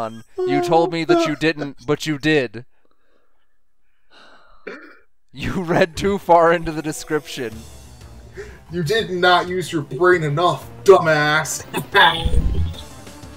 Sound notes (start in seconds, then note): 4.0 deep sigh